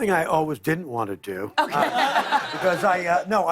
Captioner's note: laughter